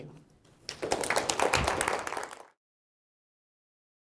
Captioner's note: applause